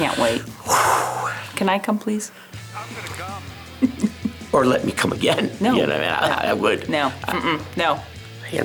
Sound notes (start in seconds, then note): 0.6 exhaling deeply; 2.6 upbeat rock music